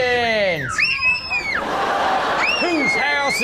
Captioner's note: child shrieks